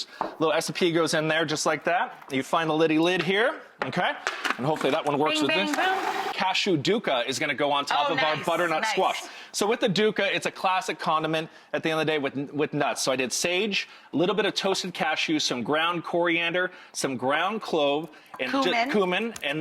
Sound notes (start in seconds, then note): 5.3 mixer whirring